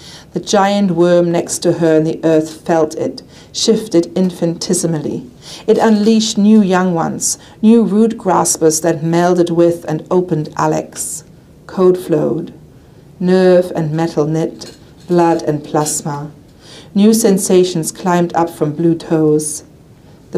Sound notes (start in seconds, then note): none